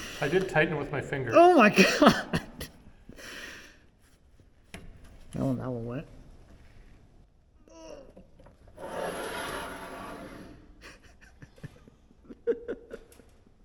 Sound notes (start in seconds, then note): 8.0 groans; 10.8 chuckles